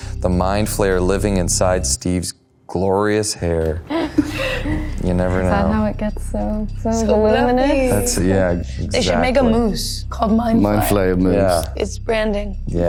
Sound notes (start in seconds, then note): 3.8 Maya and Natalia snickering